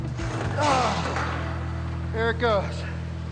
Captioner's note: grunts